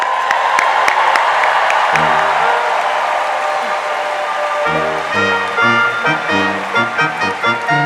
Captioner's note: cheers and applause